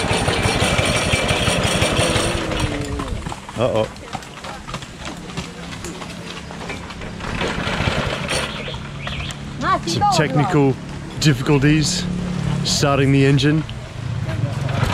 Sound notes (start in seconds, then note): 0.0 machine rattling; 4.6 hoofbeats trotting